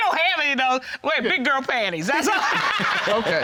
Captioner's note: laughing